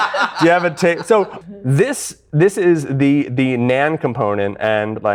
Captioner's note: laughter